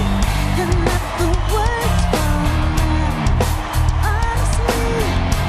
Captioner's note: cheers and Applause